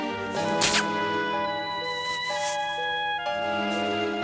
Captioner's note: smooch